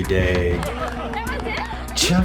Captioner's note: crowd laughing